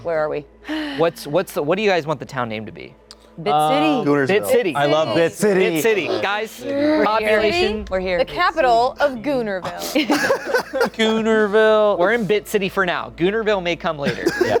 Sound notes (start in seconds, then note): 9.9 laughing; 14.1 everyone laughing